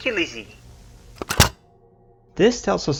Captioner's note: cassette tape ejects